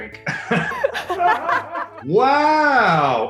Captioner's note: both laughing